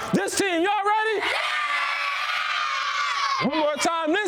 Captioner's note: kids screaming